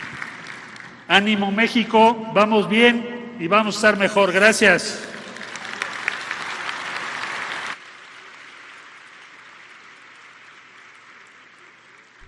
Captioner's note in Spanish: aplausos; aplausos